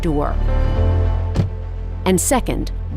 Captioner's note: car door closing